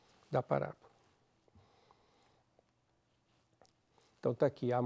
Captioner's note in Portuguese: pausa sonora